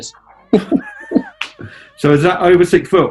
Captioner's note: chuckling